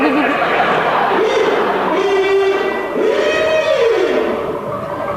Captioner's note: Perry commands, sound of a horn